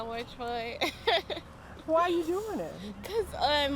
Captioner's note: laughing